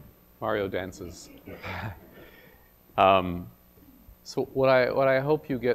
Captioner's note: laugh